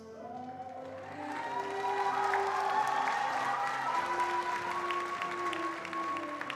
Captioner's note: attendees cheering and applauding